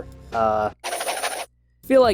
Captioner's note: cartoon spinning sound effect